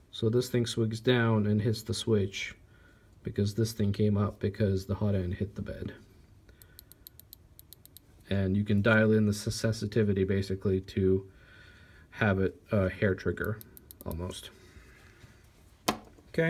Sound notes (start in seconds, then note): 6.7 click click click click click